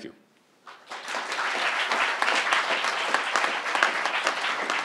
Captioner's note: crowd applauding